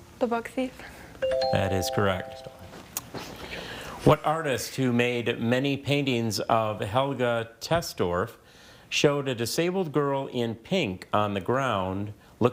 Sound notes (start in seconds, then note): 0.0 buzzer chiming; 1.2 text chiming; 2.8 player whispering